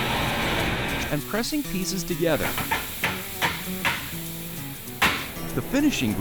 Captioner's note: wood hammering